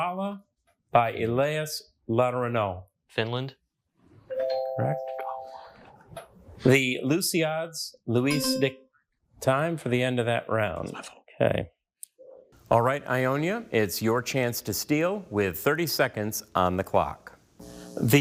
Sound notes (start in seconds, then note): 4.4 bell dings; 8.3 bell clangs